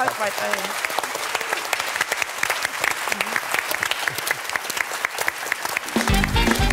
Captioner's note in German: Applaus